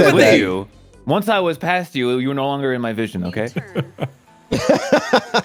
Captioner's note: laughs; chuckles